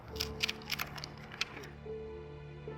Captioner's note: cover opening sound